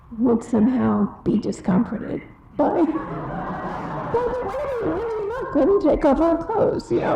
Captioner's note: audience laughs again